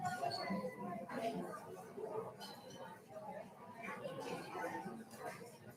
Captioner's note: participants chattering